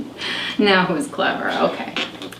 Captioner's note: laughs